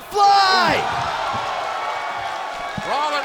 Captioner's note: crowd cheering